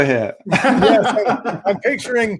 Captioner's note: laughing